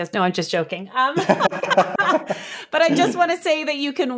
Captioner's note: laughing